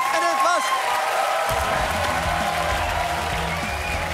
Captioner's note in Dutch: gejuich en applaus